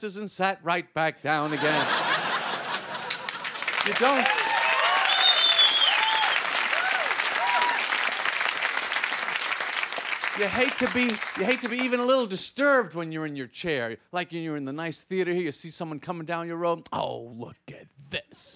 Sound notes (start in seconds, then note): 4.4 audience laughing; 7.2 audience applauding